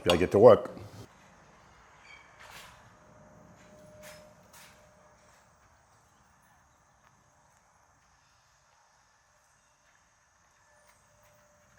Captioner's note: door closing sound; footsteps